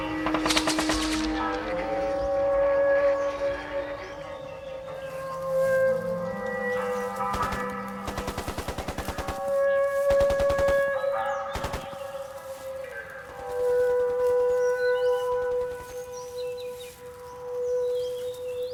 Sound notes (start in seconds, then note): 4.0 birds chirping; 7.3 rapid gunfire banging; 13.0 leaves rustling